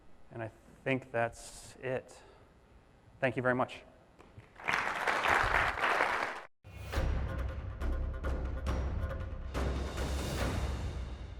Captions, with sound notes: And I think that's it. Thank you very much. (applauding) (intense music)